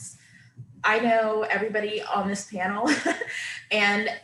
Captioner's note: laughing